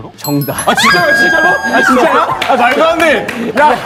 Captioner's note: cheering